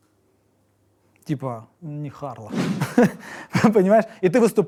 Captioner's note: chuckles